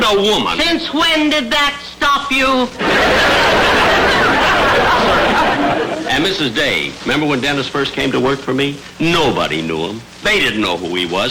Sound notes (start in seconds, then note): 2.8 audience laughter